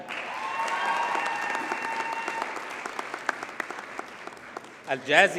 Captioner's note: audience cheers and applauds